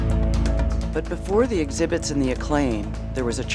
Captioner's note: voiceover